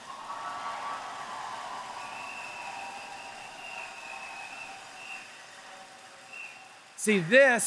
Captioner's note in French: Acclamations et applaudissements